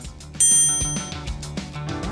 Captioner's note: upbeat music; electronic beep